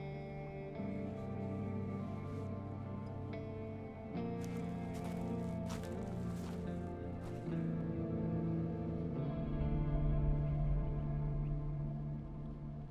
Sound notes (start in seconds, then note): 0.1 somber music; 4.0 slow footsteps